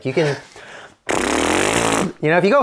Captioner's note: blows raspberry